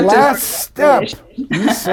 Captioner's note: laughs